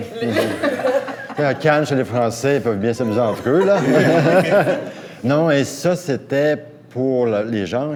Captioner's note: laughs